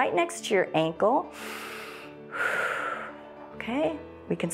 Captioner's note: inhales and exhales